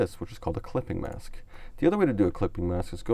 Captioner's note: clicks on mouse